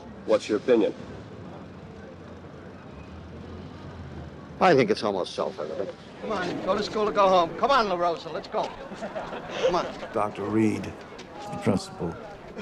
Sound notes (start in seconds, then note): 9.2 laughing